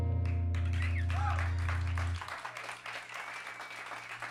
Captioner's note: cheers and applause